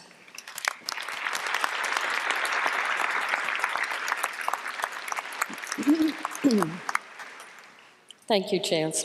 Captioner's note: applause